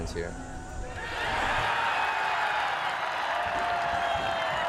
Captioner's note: crowd cheering